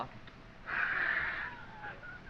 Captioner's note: laughs